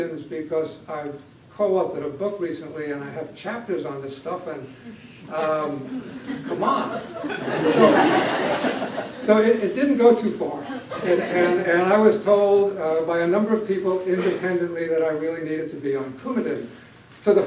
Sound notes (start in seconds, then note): 5.8 laughter